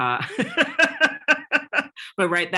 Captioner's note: laughs